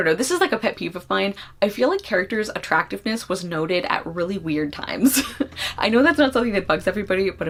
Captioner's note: laughs